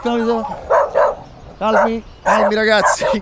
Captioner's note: dogs barking